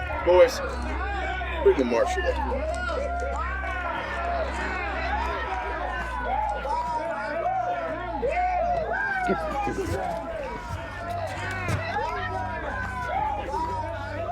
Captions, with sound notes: Boys, bring the Marshall up here. (gang cheering)